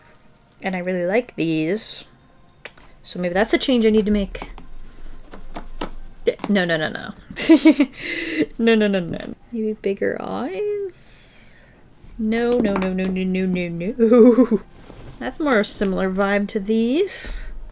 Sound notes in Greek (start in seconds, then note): 7.4 Γέλια